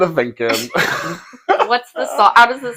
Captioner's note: laughing